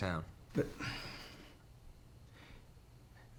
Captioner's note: sighs